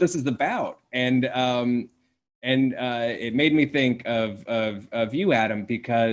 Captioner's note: stuttering